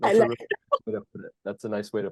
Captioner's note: laughs